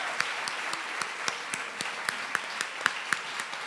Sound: applause

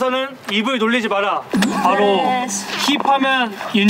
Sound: laughing mute

